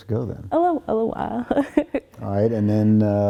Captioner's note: chuckling